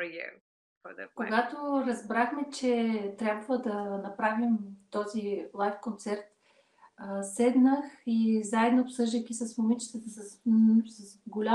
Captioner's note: foreign Language followed by English Interpreter